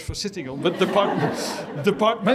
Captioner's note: laughter